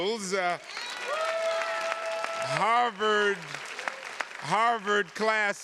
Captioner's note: attendees cheers and claps